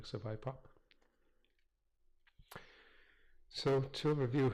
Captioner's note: pause